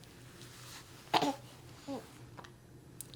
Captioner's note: baby cooing